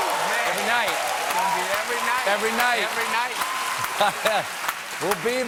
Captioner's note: cheers and applause